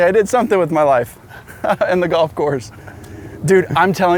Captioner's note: laughs